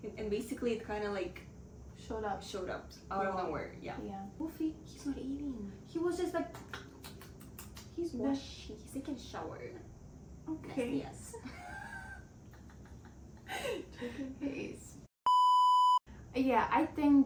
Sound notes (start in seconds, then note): 6.5 eating sounds